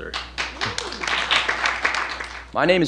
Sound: applause

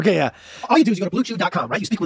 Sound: audio speeds up

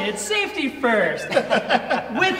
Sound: laughter

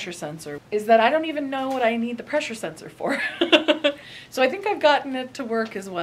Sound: laughs

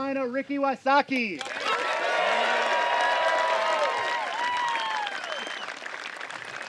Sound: applause

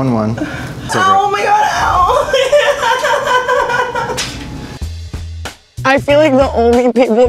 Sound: cries

